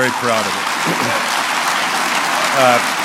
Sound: applause

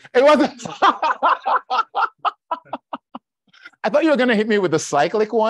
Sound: laughs

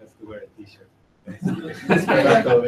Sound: laughing

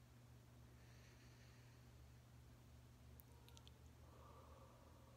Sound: inhaling

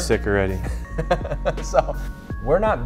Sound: laughs

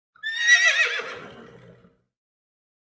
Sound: horse Neighing

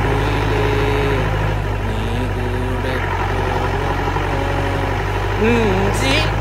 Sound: starts humming a song

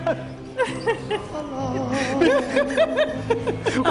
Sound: laughter

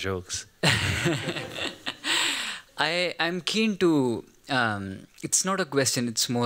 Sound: laughs

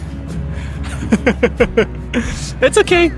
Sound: laughs

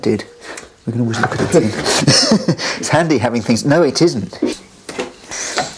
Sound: laughs

